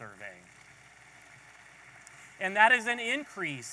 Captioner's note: audience applauding